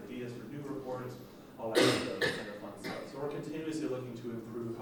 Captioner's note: coughing